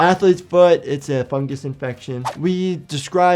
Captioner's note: air whooshing